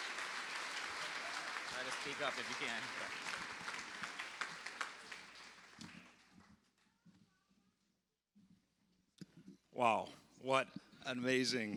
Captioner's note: applause